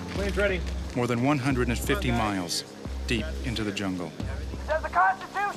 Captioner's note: voiceover